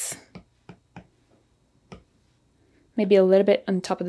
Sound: pen tapping

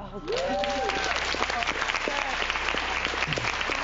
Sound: audience cheers

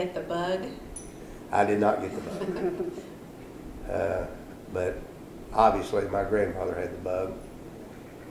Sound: laughter

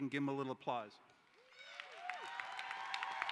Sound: cheering

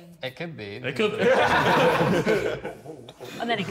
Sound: Sidemen laughing

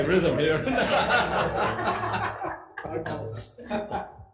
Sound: audience laughs

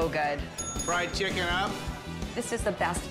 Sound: bell dinging

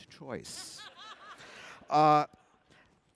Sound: laughter

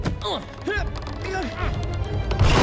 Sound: both grunting

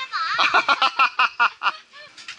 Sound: laughing

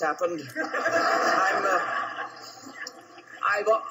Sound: audience laughing

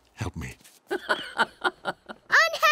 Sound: laughing

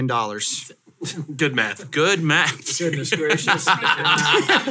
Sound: laughs

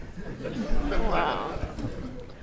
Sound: audience laughs

